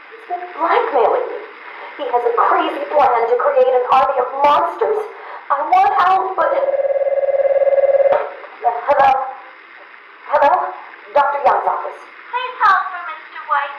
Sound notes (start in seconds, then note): 6.4 phone Rings